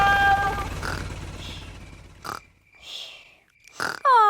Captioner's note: baby alexander snoring